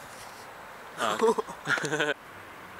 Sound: confusion + laughter at aforementioned confusion

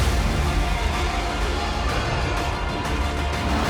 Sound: creature roaring

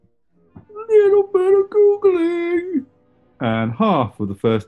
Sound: high pitched

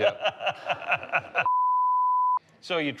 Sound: beep

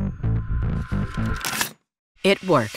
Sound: paper rips

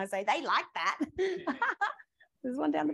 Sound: laughs

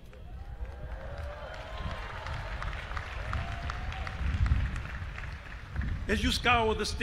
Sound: audience applauding and cheering

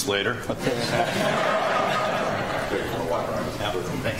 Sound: audience laughs

